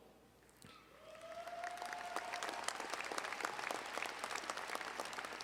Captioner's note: audience applauding